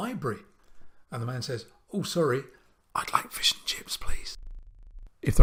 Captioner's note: whispers